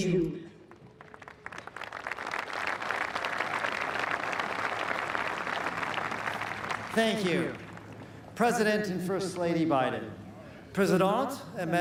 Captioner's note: speaking french